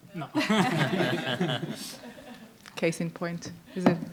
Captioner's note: people laughing